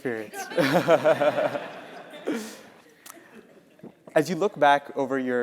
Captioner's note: laugh